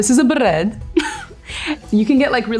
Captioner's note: giggles